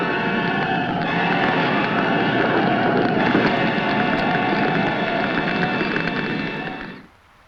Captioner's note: flames crackling; flames roaring